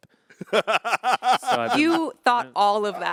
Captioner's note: Anthony laughing